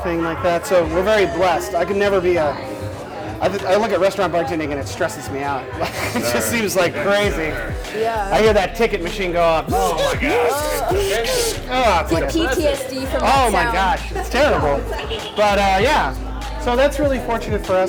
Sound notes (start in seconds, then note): 9.6 hilarious robot noises